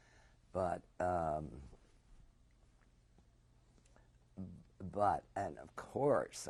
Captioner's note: pauses for 3 seconds